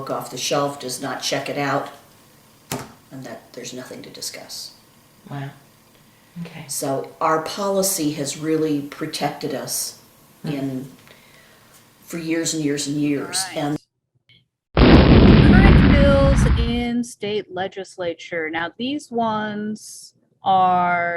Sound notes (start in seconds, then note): 14.7 explosion